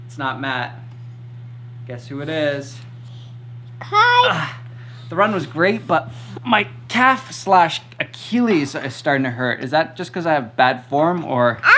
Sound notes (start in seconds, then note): 4.7 groans